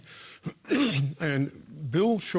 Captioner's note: coughs